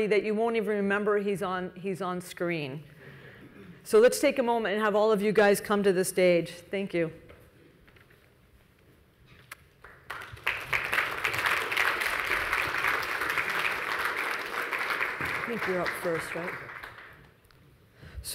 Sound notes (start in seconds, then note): 9.8 audience applauding